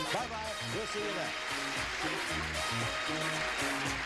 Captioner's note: applause; theme music playing